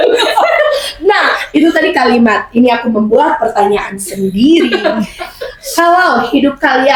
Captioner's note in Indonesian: tertawa